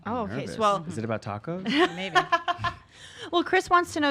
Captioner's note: laughs loudly